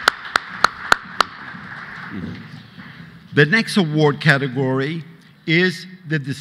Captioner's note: applause